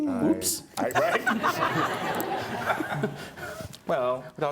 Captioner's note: audience laughing